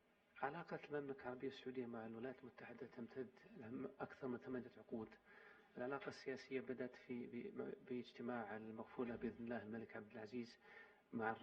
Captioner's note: in Arabic